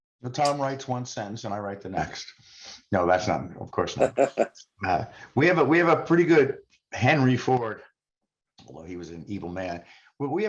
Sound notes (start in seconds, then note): 8.5 laughs